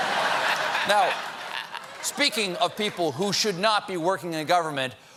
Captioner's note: laughter